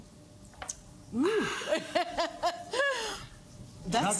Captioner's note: laughs